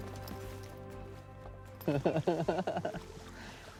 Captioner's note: laughing